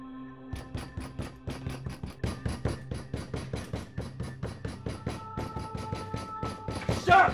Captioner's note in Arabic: قصف